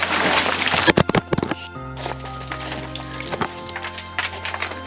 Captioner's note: camera tumbling